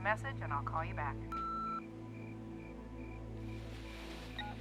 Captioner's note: beeping